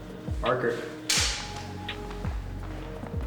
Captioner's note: soft music; snapping; soft music